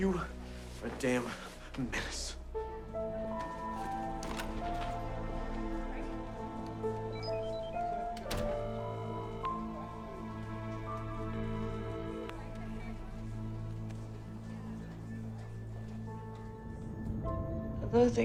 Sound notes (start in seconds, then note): 4.0 door latch clicks; 6.7 mystical music; 9.0 phone rings; 14.9 gentle music